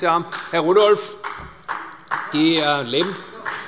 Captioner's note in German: Beifall CDU